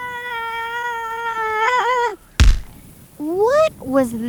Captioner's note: screams get louder, then SLAM